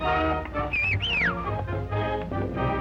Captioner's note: whistling